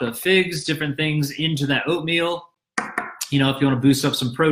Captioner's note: knocks on table